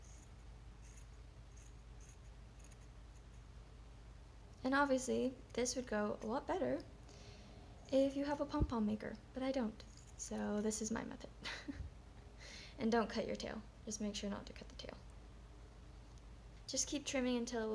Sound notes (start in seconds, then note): 11.4 chuckles